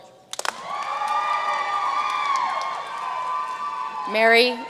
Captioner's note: audience cheering and applauding